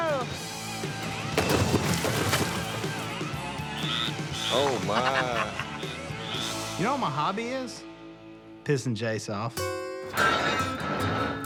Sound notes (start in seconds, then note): 3.6 frog chirping